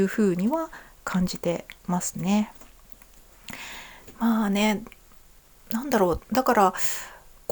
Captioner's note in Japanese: 息をのむ音